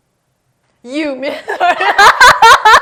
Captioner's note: laughs